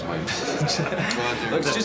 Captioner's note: laughs